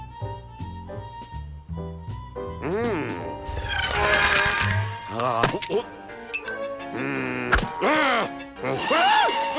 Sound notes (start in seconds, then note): 3.0 fast whirring